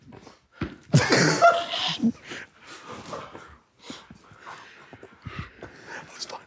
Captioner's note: group laughs